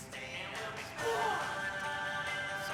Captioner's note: yells